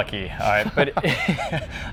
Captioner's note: laughs